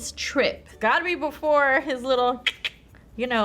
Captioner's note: clicks tongue